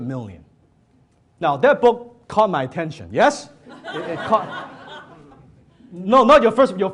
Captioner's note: audience laughs